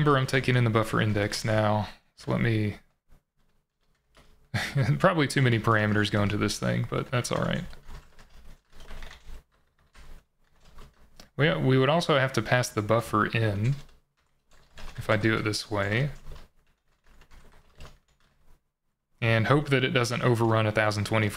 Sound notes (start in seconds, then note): 8.6 keyboard clattering